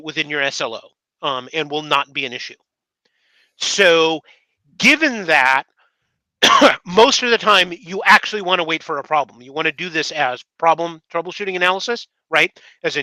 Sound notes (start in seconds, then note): 6.4 coughs